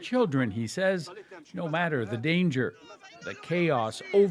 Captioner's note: speaking alternate language